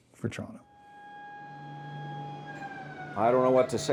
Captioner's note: siren blares